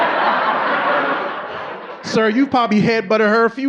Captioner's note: audience laughing